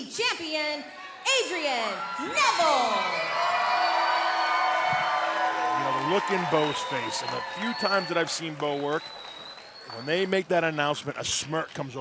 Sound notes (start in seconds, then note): 4.0 cheering